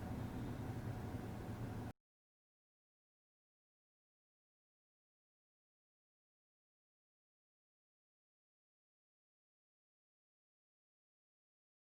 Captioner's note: its my front parking sensors Buzzing since it senses manner less drivers